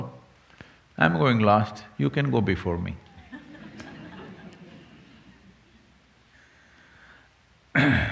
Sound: few laugh

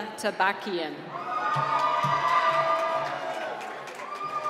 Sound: cheering

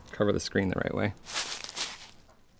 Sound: rustling

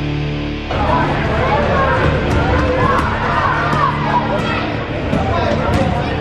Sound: kids talking at once

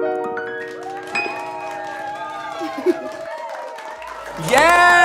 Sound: audience applauds; audience cheers

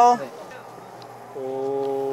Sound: sipping

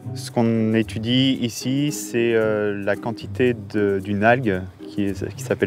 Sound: upbeat music; speaking in French

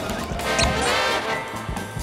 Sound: squeaking

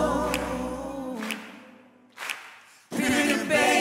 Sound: audience claps

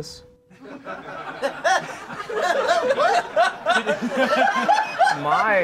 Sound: laughing

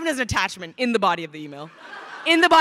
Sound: crowd laughing

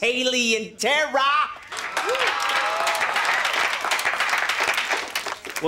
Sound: cheering, applauding

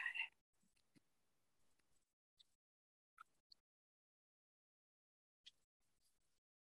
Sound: whisper

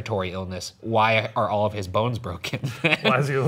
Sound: laughing

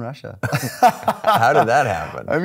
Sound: laughing

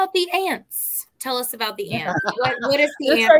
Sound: laughter

